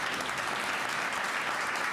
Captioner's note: applause